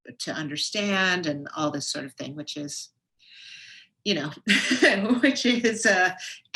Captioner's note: laughs